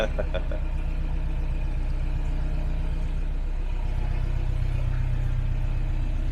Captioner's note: laughter